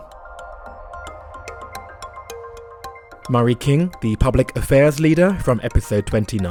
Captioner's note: voiceover